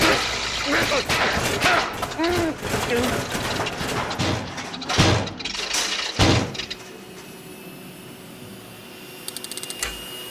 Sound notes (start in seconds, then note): 3.4 heater sputters; 6.1 thuds; 6.4 heater humming